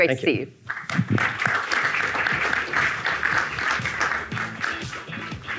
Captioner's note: audience clapping; upbeat music